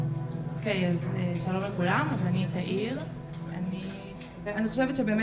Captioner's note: speaking foreign language